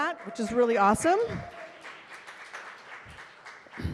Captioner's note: cheers and applause